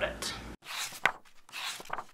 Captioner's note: pages turning